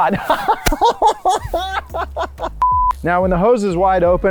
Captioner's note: laughter